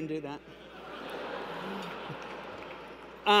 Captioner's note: laughter